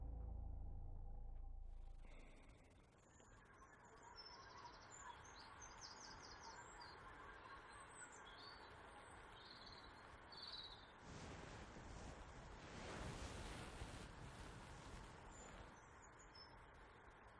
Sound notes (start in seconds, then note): 4.6 birds chirping